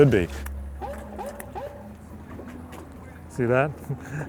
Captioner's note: dog barking in distance